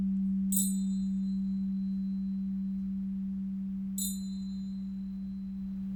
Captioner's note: chimes ding three times